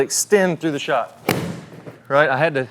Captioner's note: club smacking